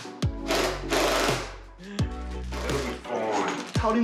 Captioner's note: power tool rattles